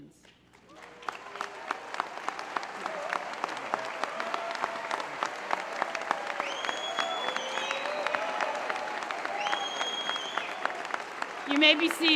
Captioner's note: applause